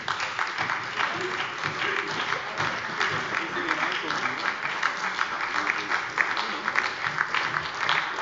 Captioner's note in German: Beifall bei der SPD